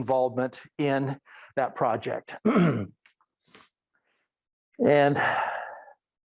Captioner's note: clears throat